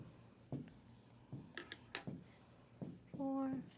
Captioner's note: stylus scratching